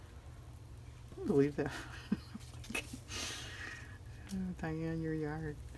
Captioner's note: laughs